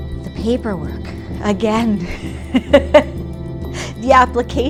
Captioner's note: laugh